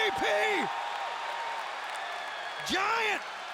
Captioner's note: audience applauding and cheering